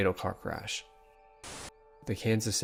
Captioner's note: static